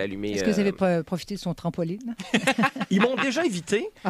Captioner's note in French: rires